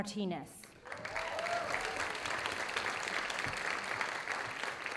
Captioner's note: audience applauding